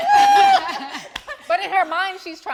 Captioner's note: everyone laughing understandably